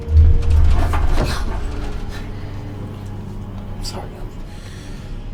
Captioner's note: airplane rattling